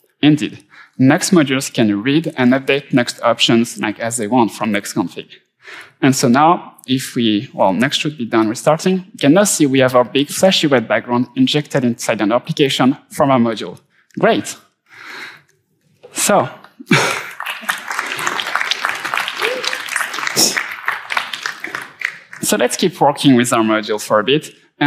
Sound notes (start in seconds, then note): 16.6 laughing gently; 16.9 audience clapping loudly